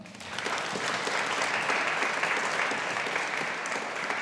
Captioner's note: audience applauding